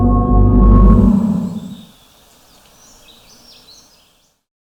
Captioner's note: birdsong